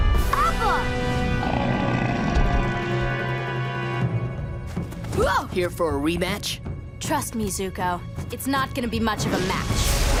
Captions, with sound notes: Appa. [Appa grunting] -Whoa. -Here for a rematch? Trust me, Zuko, it's not going to be much of a match.